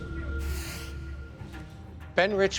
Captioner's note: UFO whooshes